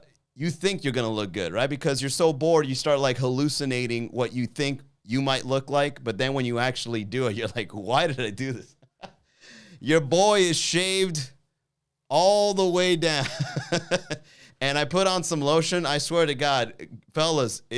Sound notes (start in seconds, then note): 8.8 chuckles; 13.1 laughs